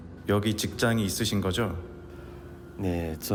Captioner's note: reporter speaking Korean; worker speaking Korean